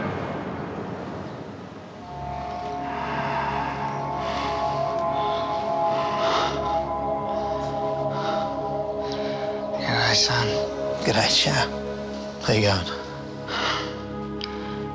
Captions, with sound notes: (dramatic music) - (breathes heavily) G'dday, son. - G'dday, Chow. How you goin'?